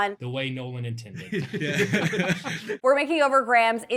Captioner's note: group laughing